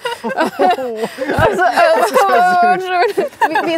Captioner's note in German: Lachen; stammelnd